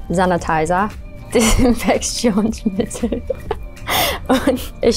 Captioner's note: laughs